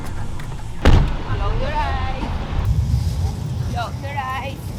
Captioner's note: chatting with cab driver; door slams